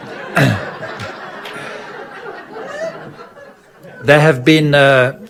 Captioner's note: audience laughing